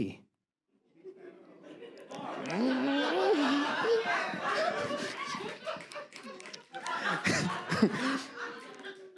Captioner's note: audience voices